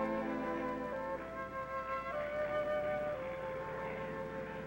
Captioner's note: plane whirring